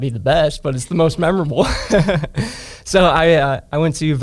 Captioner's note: laughs